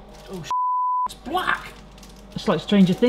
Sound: beep

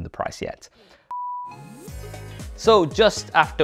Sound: test card beep; upbeat music

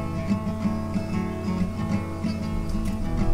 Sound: buzzing bee sound

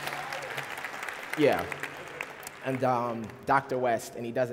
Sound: applause

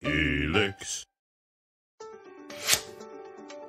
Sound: voiceover; soft music

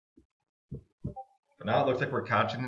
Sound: computer beeps

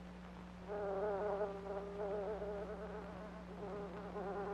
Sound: fly buzzing

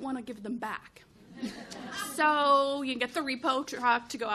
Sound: chuckles

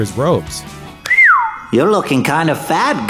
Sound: whistles

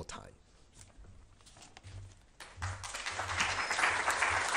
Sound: applause

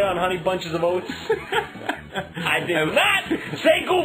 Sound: laugh

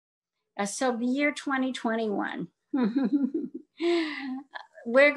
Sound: chuckles

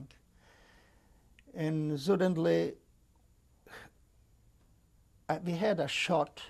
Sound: pauses for 3 seconds

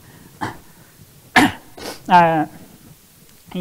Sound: coughs

